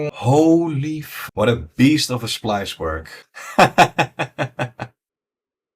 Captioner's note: laughs